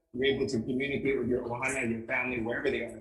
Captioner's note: speaking in foreign language